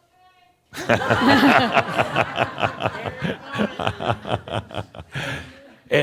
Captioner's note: shouts from the kitchen; laughter